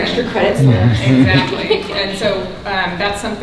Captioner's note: woman laughing